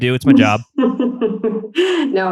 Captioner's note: laughs